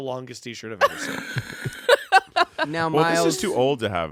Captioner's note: everyone laughs